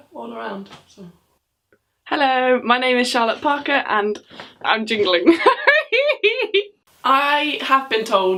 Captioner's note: laughs